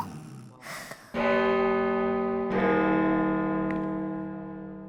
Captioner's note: church bell chimes